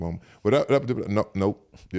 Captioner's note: Eric mumbles